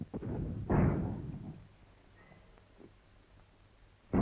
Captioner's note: booming in the distance